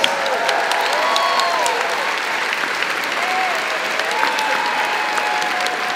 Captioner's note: crowd clapping and cheering